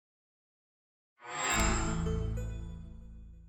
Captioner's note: chime